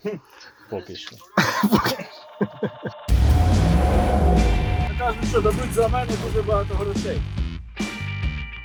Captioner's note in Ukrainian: сміх